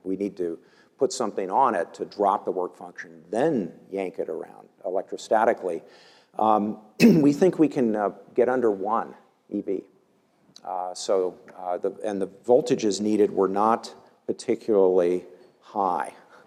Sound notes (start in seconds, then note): 7.0 cough